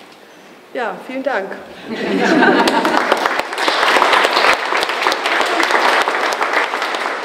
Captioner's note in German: Applaus